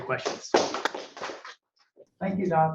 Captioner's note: applause